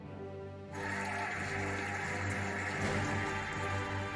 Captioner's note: cheering and applauding